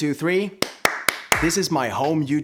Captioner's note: clapping